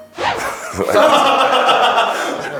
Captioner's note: ha ha ha ha ha